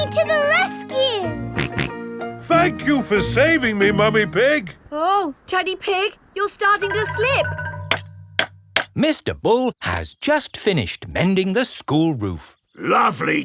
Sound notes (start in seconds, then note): 1.6 snorting; 7.4 clanking